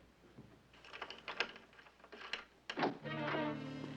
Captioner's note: door opening